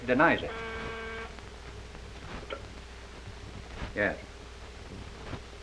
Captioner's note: phone ringing